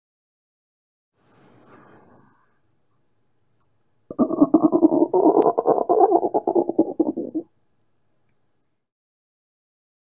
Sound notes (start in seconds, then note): 0.0 sound of growl